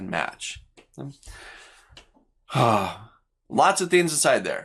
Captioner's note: breathes deeply